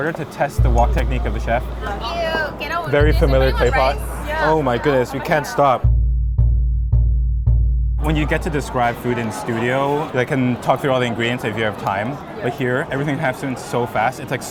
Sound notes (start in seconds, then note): 5.8 text booming